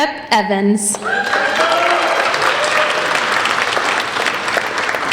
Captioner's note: applauding